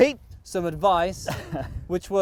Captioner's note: laughing